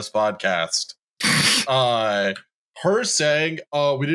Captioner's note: snorts